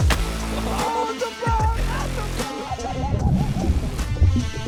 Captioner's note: excited yelling